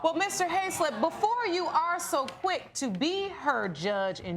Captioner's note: audience groaning